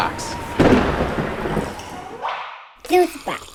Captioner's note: thunder cracking